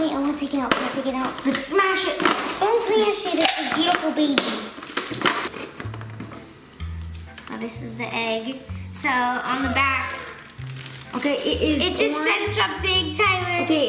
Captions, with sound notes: - Wait I want to take it out. Can I take it out? - Let's smash it. - Don't say that, it's a beautiful baby. Now, this is the egg. On the back-- (Hatchimal Squeaks) - It's orange. - It just said something Tyler!